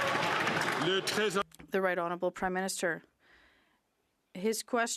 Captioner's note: some Applause